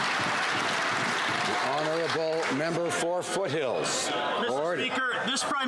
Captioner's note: some Applause